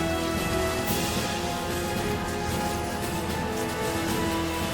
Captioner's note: Ozz muttering